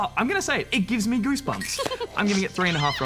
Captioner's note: laughs